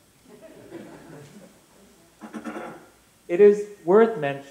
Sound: laughter

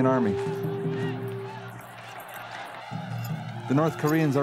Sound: soldiers shouting

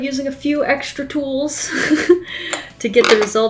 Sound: laughs

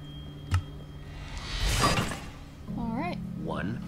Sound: click; swoosh

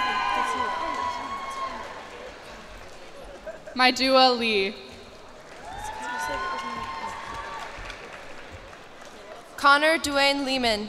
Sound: cheers and applause

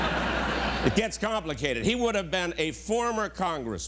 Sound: laughter

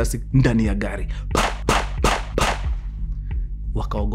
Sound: gunshots

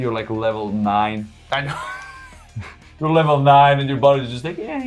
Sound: laugh

